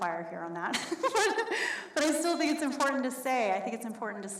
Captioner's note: laughs